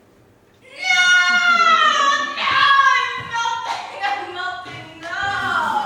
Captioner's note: yells